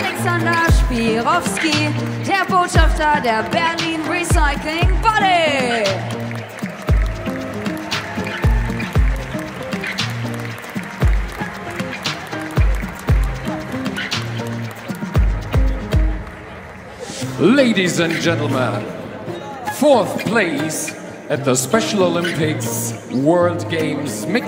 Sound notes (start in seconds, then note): 6.4 applause; 6.4 ♫ Midtempo guitar music ♫